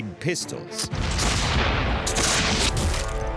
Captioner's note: pistol fires